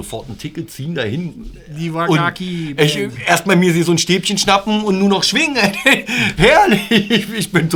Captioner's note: laughter